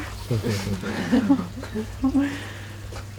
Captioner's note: soft laughter